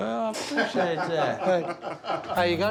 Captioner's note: laughter